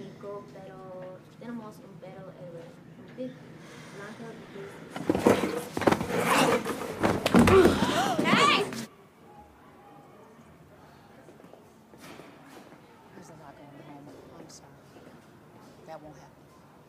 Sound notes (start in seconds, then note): 0.2 girl continues speaking spanish; 6.0 aaron grunts; 7.4 all gasp